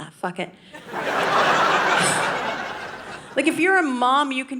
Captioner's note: audience laughing